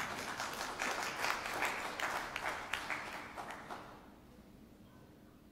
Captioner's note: audience applauding